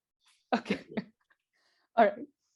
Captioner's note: laughs